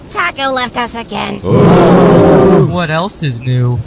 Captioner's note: collective groan